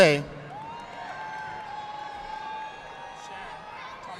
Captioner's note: audience applauding